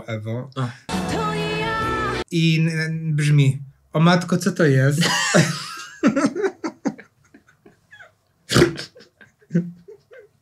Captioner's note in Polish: śmiech